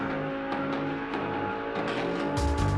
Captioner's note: engines revving